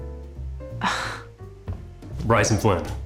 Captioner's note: sighs